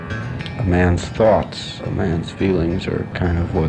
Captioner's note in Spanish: Voz en off